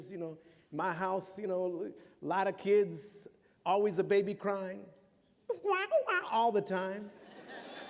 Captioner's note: mimics baby crying; laughter